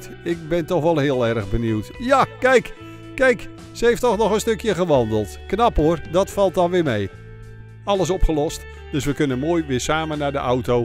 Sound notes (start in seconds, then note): 0.3 voiceover